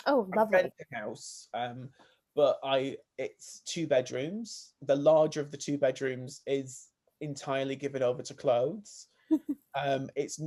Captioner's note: laughs